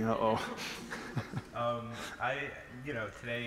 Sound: laughter

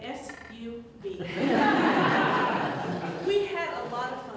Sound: audience Laughter

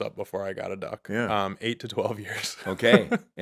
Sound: chuckling

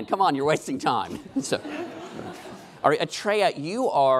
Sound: laughing

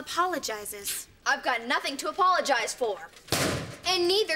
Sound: slamming

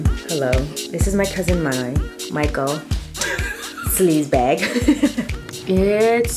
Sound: laughs

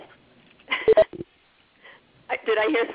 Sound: laughs

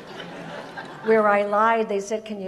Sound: audience laughs

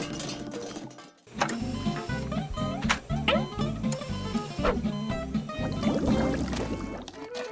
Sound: beeping

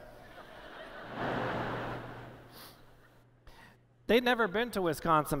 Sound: laughter

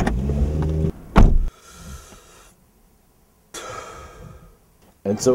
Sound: door Close & takes deep breaths in and out

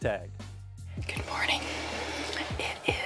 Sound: whispering

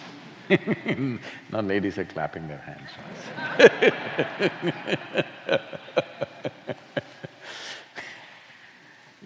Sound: laughs; laughter

